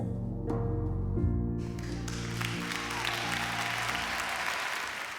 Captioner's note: cheering and applause